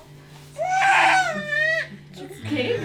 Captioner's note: baby crying